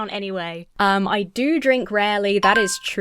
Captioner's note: bell dings